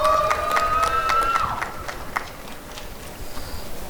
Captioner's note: applause and cheering